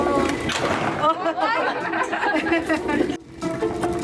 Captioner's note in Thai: เสียงหัวเราะ